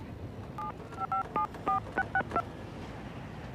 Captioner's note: tones beeping